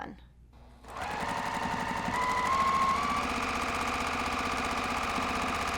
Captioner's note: sewing machine whirring